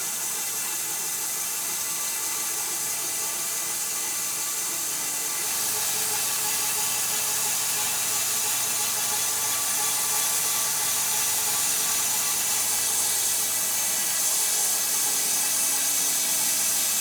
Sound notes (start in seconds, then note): 4.8 machine humming